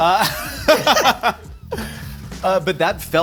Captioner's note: they laugh